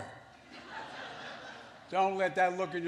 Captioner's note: laughter